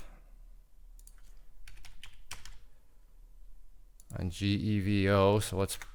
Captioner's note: keyboard clicking